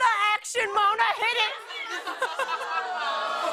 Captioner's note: audience ohs; laughter